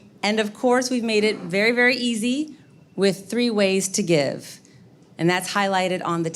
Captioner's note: none